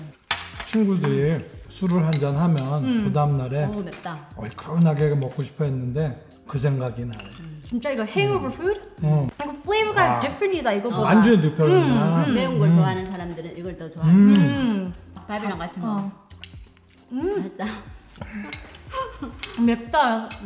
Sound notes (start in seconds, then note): 14.0 murmurs in agreement